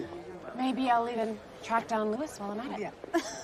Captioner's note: laughing